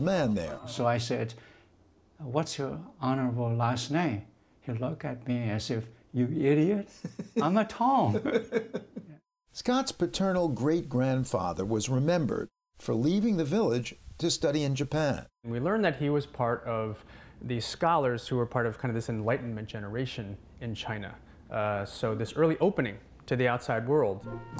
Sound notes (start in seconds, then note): 8.0 laughter